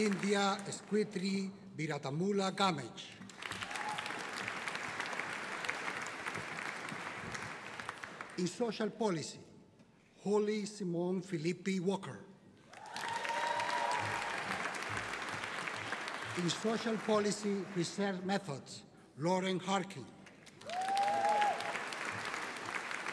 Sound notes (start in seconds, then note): 12.7 audience cheering; 20.2 audience applauding